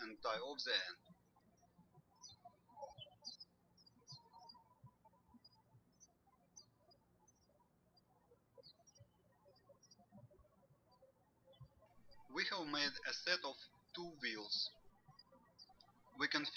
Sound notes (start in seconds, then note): 2.9 birds chirping